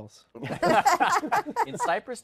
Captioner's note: laughter